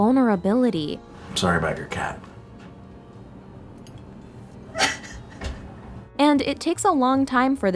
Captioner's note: crying